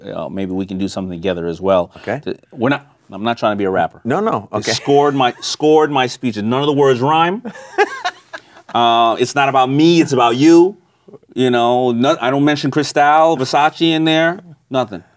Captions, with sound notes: that maybe we can do something together as well. - Okay. - I'm not trying to be a rapper. - No, no, okay. - Scored my speeches, none of the words wrong. (laughing) It's not about me, it's about you. You know I don't mention Chrystal, Versace in there,